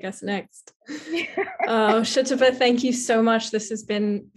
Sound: laughing

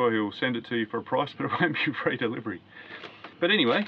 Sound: laughing

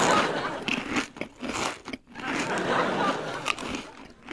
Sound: audience laughs; crunches

